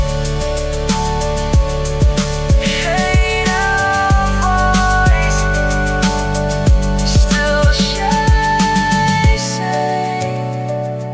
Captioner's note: whispered